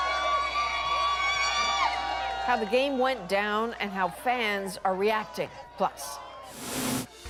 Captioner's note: cheers and Applause